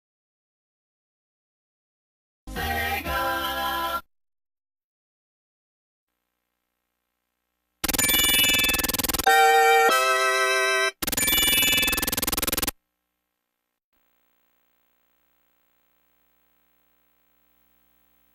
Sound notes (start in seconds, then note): 7.7 16-bit propeller sounds and Sega jingle; 10.9 16-bit propeller sounds; 14.0 analog TV static